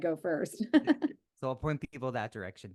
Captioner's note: laughing